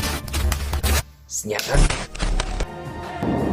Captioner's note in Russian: глитч